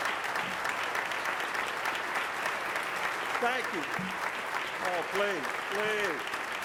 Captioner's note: applause